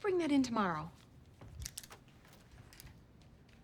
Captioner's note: clicks pen